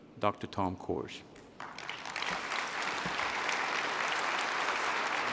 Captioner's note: applause